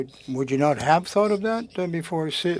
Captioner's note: speaking French